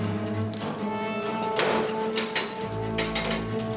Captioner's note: pintu putar bergemerincing